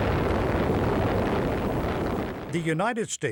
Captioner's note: bomb blasting